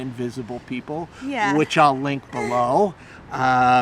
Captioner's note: laughing